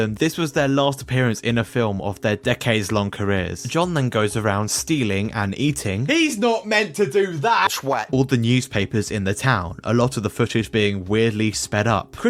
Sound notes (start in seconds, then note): none